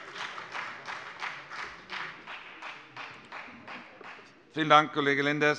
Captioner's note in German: Beifall bei der FDP